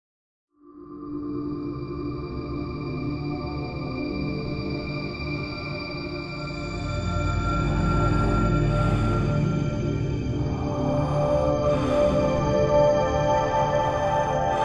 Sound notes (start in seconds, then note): 0.0 sound of slow hard breathing in outer space